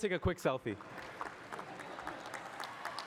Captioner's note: cheering and applause